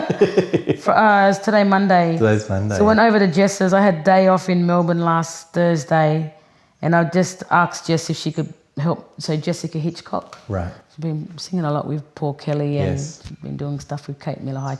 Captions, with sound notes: (laughs) It was today, Monday. - Today's Monday. - So I went over to Jess's. I had "Day Off" in Melbourne last Thursday. And I just asked Jess if she could help. So Jessica Hitchcock. - Right. - she's been singing a lot with Paul Kelly and been doing stuff with Kate Miller-Heidke.